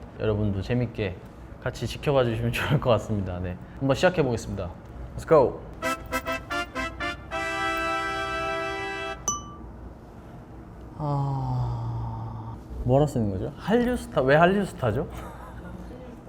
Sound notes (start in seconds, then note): 10.9 sigh upon seeing it